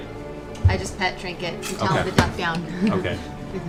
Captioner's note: laughs